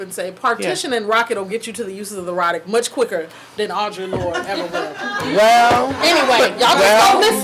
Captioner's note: audience laughing